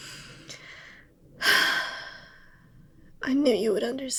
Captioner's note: sigh